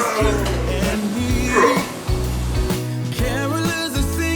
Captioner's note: grunts